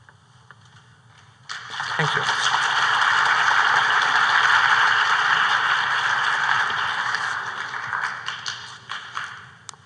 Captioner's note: applause